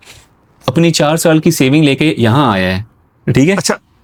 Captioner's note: nasal sound